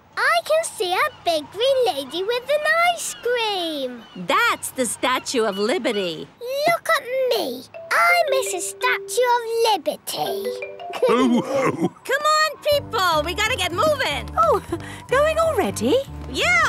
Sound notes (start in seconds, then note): 10.9 all laughing